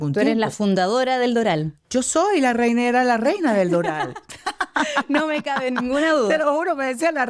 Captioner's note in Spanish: risas